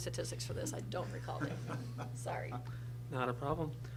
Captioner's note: laughs